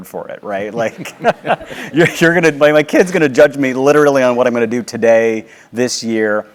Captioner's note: laugh